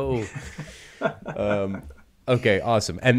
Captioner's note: all laughing